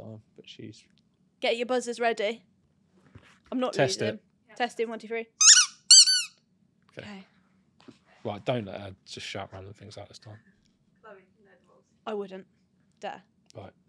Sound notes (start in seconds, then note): 5.4 ball squeaking